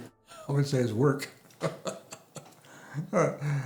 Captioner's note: laughs